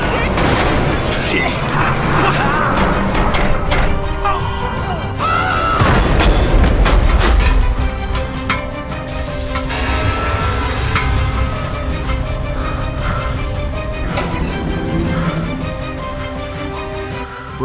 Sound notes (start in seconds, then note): 8.1 ladder rattles as he forces the lift door open by hand; 15.5 suspenseful music